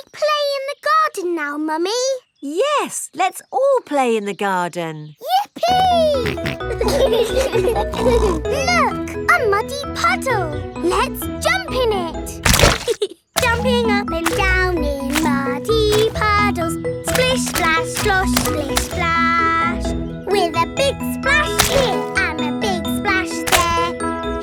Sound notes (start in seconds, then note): 7.2 laughing